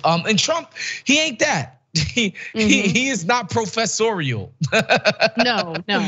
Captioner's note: laugh